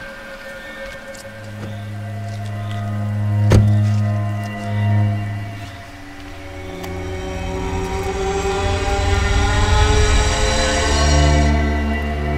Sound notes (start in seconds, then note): 3.4 car door slams; 5.3 eerie music continues